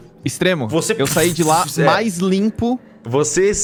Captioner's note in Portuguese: fush